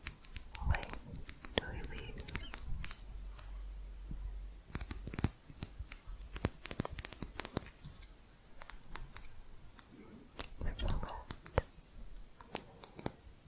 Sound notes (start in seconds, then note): 3.1 quick tapping